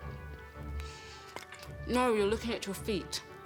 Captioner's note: dish clanking